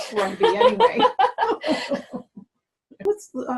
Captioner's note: laugh